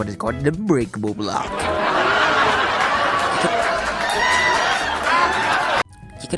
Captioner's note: audience laughs